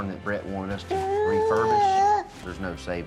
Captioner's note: giggles